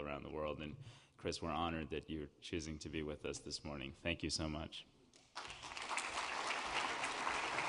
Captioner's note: applause